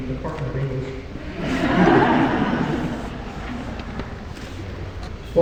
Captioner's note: laughter